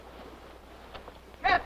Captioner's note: incoming footsteps